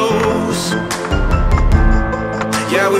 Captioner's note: keyboard typing sounds